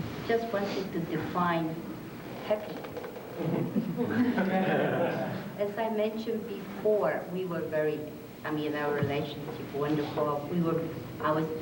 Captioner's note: laughter